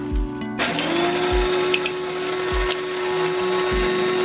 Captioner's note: blender noise